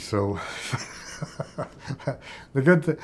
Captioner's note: laughs